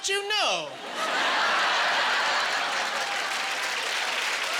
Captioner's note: laughing